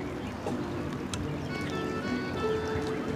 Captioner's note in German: Wasserplätschern